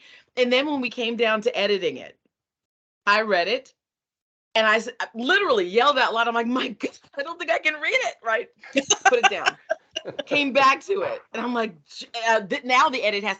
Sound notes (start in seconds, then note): 8.6 laughing